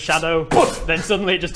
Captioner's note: boof!